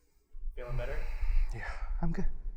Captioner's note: heavy breathing